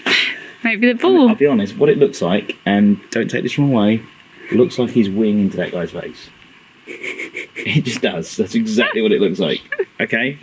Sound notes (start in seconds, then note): 6.8 laughing